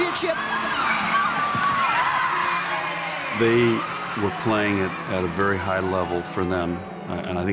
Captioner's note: cheering